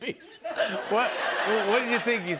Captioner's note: laughter